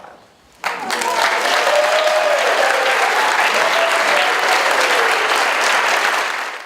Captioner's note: audience applauds